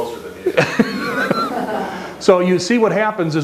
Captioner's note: audience laughter